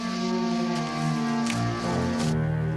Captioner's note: none